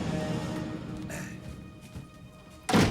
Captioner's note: slams door